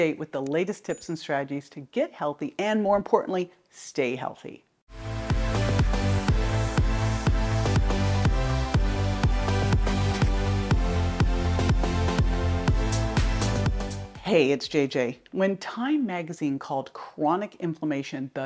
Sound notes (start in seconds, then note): 5.0 upbeat music; 9.8 pencil scratching